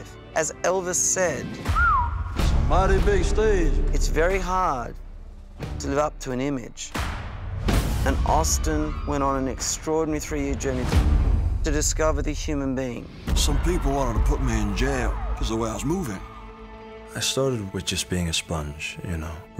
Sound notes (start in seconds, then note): 1.6 whistling